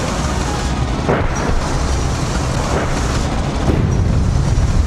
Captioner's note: bombs exploding